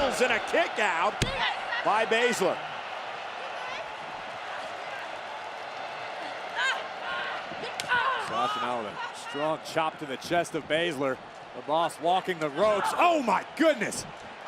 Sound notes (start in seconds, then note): 3.4 crowd cheers; 7.5 hand slaps